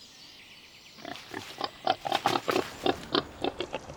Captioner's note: boar snorting